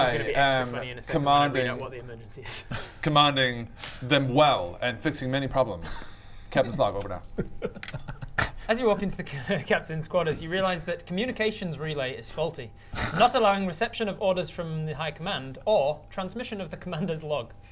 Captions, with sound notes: This is gonna be extra funny in a second when I read out what the emergency is! commanding them well and fixing many problems captain's log, over and out *insubordinate giggle* As you walk into the captain's quarters you realise that communications relay is faulty not allowing reception of orders from high command or transmission of the commander's log